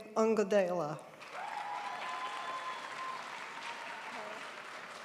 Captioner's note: crowd applauds